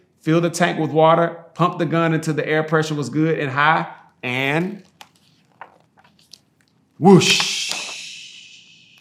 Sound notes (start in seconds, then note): 4.4 pages rustling